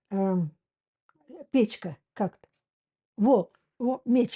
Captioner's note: Russian